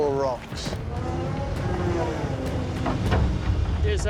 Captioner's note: hydraulics whirring